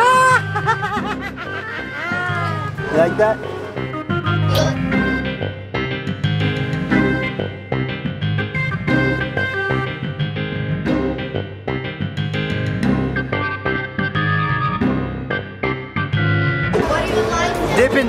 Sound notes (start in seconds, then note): 0.0 laughing; 4.3 lip smacking; 5.6 dramatic music